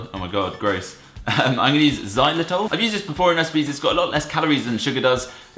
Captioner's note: laughs